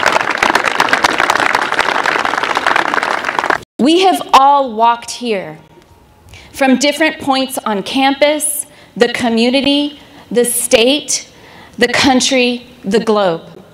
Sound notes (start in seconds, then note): 2.5 applause